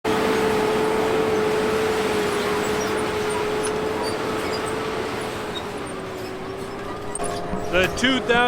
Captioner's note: tractor sound